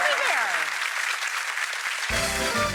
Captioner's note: audience applauds; italian music